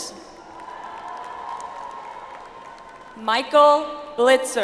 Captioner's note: audience applauds